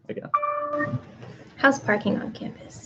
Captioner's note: computer dings